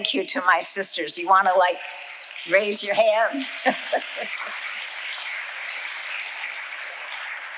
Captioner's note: laughs